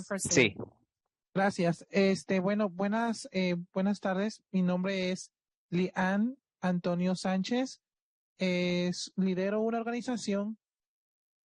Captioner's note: speaking Spanish